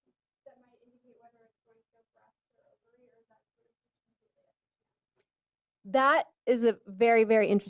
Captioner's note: off microphone